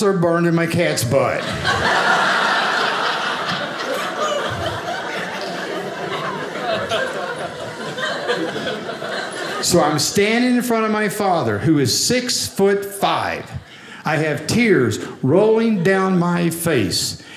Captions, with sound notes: burned in my cat's butt. (audience laughing) So I'm standing in front of my father who is six foot five. I have tears rolling down my face.